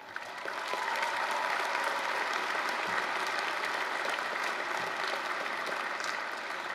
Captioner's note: applause